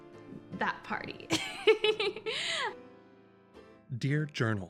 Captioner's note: Winnie giggles